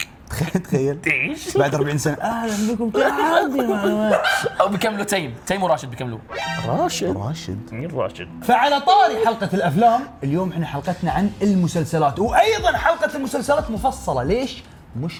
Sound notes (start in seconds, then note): 2.2 old man voice